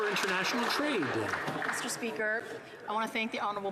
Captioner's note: some Applause